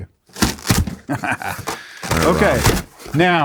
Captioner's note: box rustling; laughs